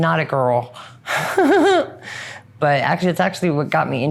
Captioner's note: laughs